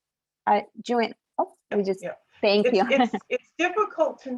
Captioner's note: laughs